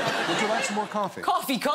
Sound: audience laughs

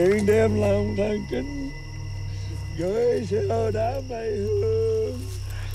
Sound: Dao chanting in Vietnamese

